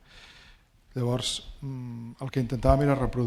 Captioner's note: speaking spanish